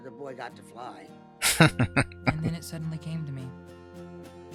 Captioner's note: chuckling